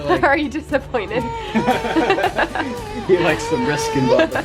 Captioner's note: dad laughs